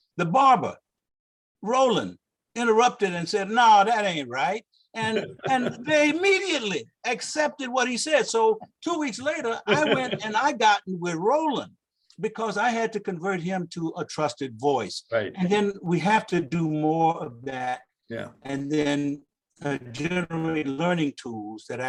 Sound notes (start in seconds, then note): 5.0 laughs